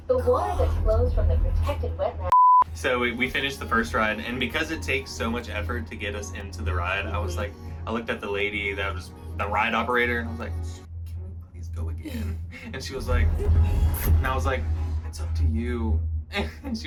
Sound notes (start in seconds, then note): 2.2 beeps